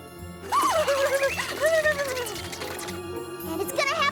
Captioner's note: shuddering